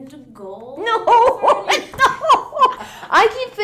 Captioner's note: laughs; pat